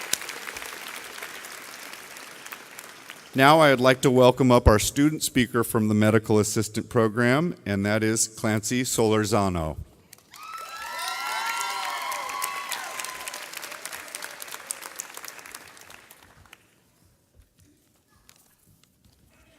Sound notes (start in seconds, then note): 10.3 audience cheering